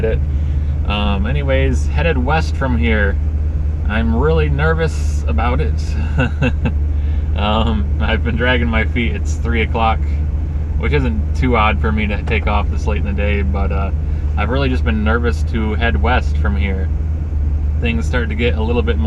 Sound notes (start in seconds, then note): 5.9 chuckle